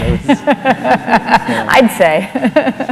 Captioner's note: laughter